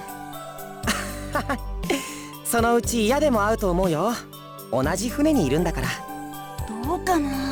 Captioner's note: chuckle